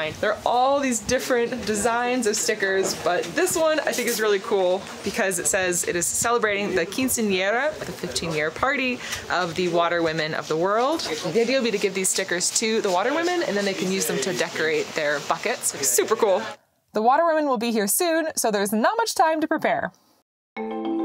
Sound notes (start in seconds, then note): 7.1 foreign language; 20.6 upbeat music